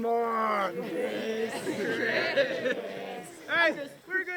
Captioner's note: crowd chanting